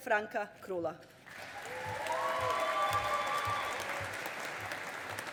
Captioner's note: audience applauding